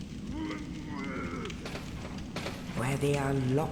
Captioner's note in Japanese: うめき声